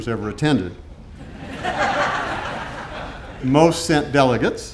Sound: audience laughing

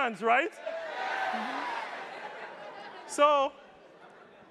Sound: attendees cheering

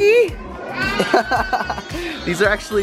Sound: laughs

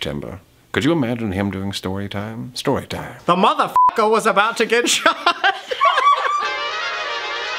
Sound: squeaking laughter

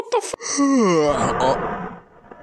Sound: yawn

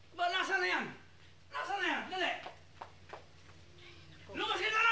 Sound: footsteps rushing

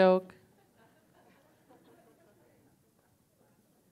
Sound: laughter

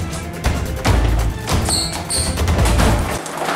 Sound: shoes skrrt on the floor

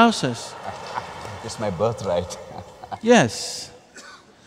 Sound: laughter; laughs

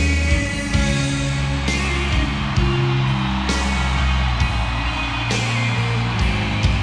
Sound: slow rock music; audience cheering

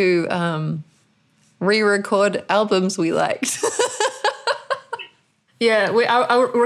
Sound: laughter

